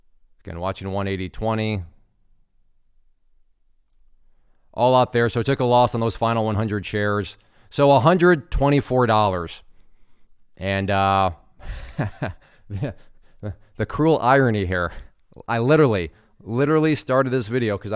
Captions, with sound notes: Again, watching 180.20. All out there. So it took a loss on those final 100 shares. So $124. And (laughs). The cruel irony here. I literally, literally started this video